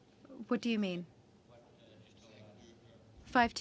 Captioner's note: speaking french